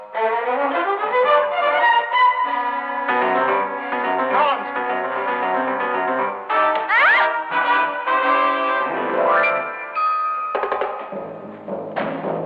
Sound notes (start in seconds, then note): 0.1 dramatic music; 6.8 woman yells